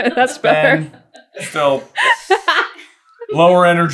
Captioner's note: laughter